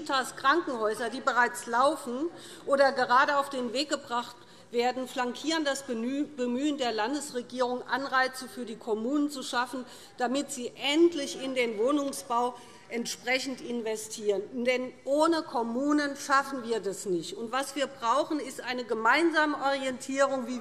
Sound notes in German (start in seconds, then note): none